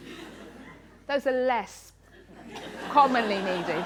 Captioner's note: laughter; laughter